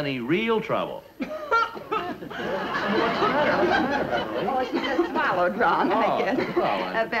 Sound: dramatic coughing; audience laughs

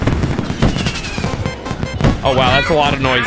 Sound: gunshots

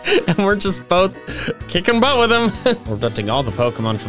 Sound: laughing

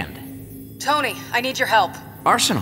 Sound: over comms

